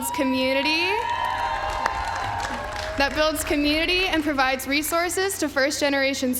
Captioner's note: applause